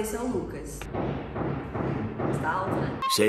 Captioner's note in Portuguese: barulho de obra